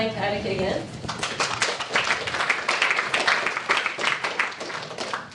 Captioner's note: applause